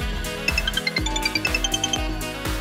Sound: phone rings

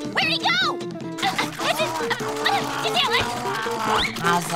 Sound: mumbling and chomping

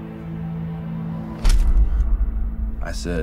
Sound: picture clicks

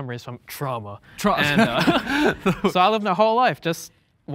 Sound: laughs

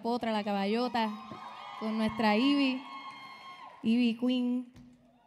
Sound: audience cheering

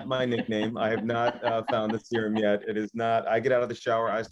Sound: laughing

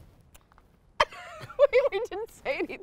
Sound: laughing

